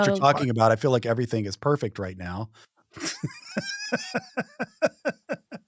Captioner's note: laughs